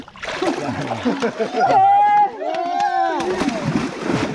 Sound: applause and cheering

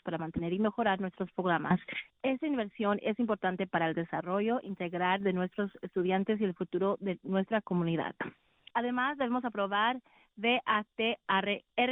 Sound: speaking spanish

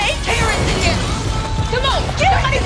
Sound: explosion

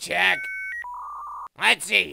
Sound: dial-up modem sound

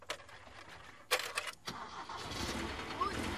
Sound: car engine starts

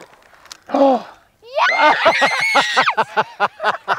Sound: kids squeal with excitement

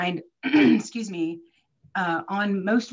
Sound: clears throat

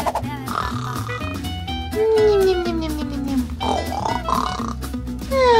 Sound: continues snoring

